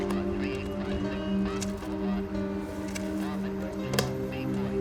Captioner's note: radio chattering